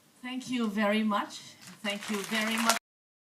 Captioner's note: applause